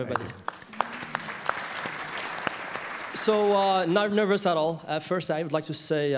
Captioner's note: applause